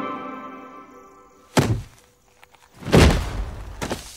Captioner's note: thudding